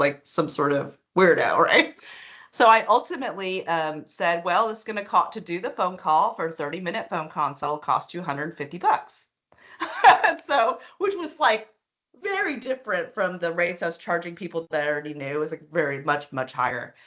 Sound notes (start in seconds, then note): 9.8 laughing